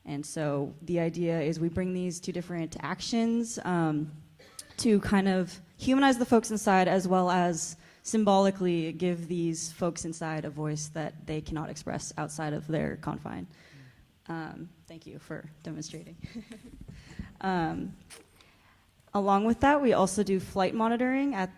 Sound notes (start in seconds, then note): 16.1 chuckles